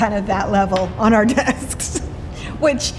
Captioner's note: laughs